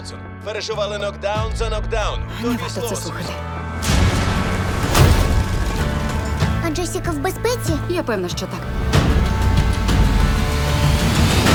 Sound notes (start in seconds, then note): 3.8 thunder crashes; 9.1 suspenseful music plays